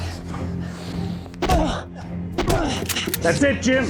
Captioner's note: punching, grunting; gun cocks